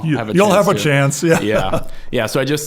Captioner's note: laughing